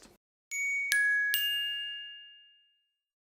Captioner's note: dinging